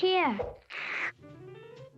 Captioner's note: affectionate slurping